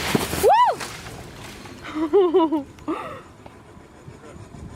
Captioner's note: shrieks